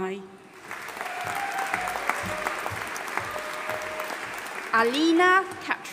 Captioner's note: audience applauding and cheering